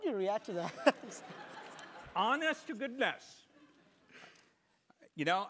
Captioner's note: laugh